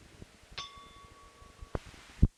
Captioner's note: bell Sound